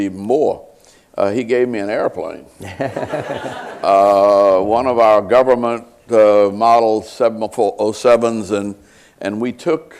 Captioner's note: laughter